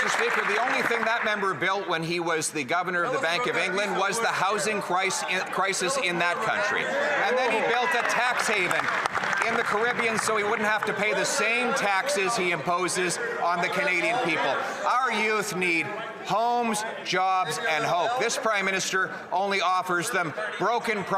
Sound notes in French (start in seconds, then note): 8.1 voix de l'interprète